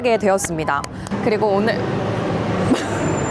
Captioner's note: vroom, vroom